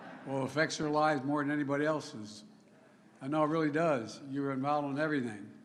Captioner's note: laughter